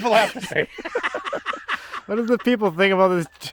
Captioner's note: both laughing